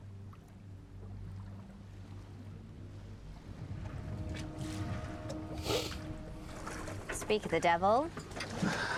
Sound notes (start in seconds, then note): 3.6 ominous music; 5.6 George sniffles